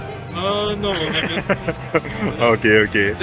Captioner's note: laughing